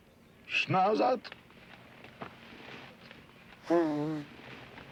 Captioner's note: speaks foreign language